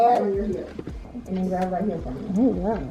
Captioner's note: laughs